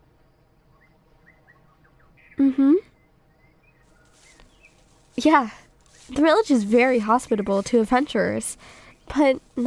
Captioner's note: walking continues